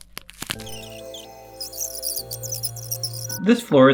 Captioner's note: bones cracking; tape recorder rewinding